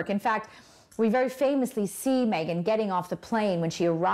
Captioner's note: none